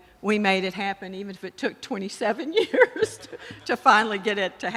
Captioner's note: laughing